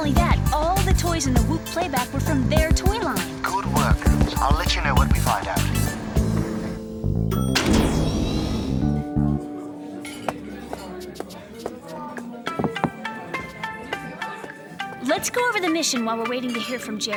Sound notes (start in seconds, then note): 7.3 ding; 12.9 asian music